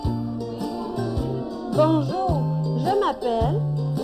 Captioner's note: children speaking